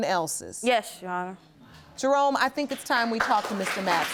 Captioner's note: audience applauding